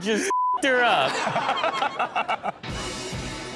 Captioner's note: everyone laughs; upbeat music